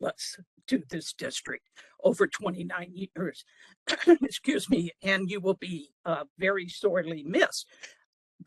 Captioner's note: cough